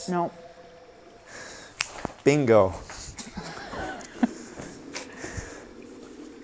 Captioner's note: snaps; chuckle